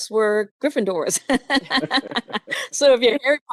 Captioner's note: laughing